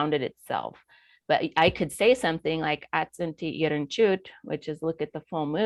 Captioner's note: foreign language